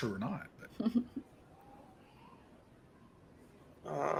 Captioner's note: giggles